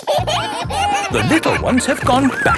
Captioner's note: kids giggling